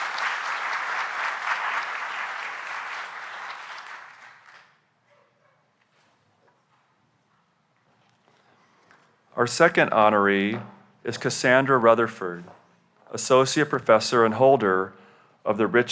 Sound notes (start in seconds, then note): 2.7 applause